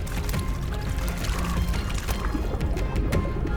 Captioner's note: water sloshes; ominous music